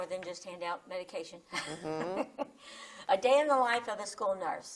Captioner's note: chuckles